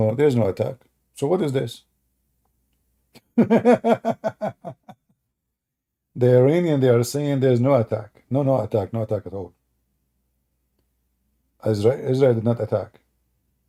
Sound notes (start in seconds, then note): 3.1 Ketawa